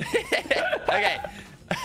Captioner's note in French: rire